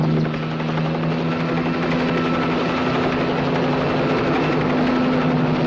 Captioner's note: helicopter roaring